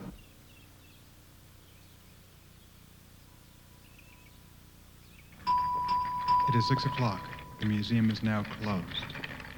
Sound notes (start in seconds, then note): 0.6 birds chirp; 5.4 bell dings; 9.3 cleaning cart clatters